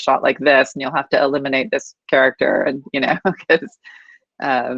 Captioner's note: laughs